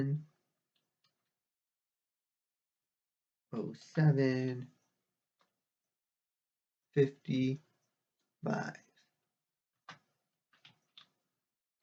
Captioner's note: tapping of keyboard